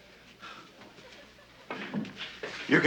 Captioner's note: woman giggling